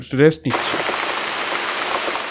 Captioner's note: rain starts